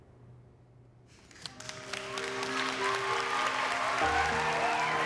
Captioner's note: cheering and clapping